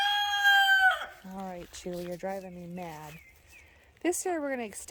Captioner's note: rooster crowing